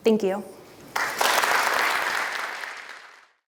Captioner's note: applause